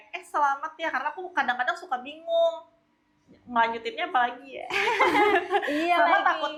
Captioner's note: laughs